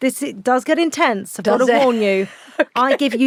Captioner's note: laughs